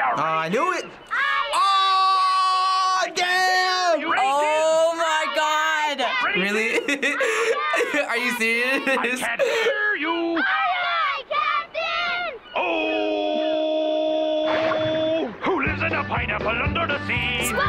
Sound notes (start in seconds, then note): 6.2 laughing